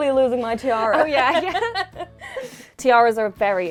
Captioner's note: laughing